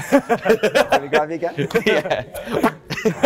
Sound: laughter

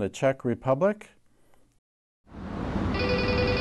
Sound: phone ringing

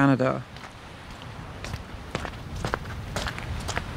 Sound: footsteps crunching on snow

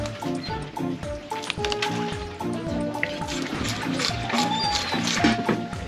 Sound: flopping

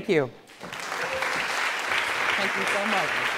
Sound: applause

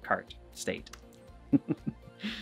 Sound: laughs

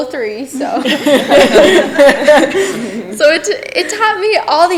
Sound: people laughing

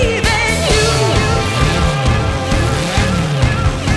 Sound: motorbike revs

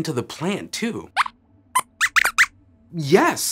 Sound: squeaks squeaks

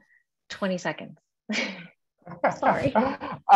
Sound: laugh

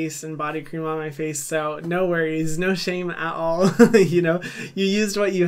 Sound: chuckles

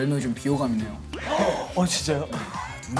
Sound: haha

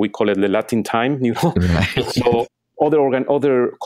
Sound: chuckles

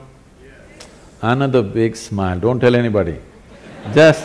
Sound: laughter; 笑聲

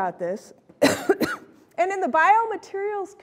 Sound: coughs

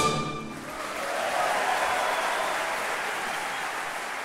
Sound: audience applauding

